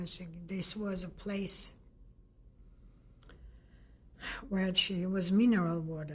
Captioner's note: pauses for 3 seconds